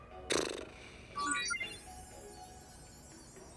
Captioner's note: annoyed raspberry; digital chimes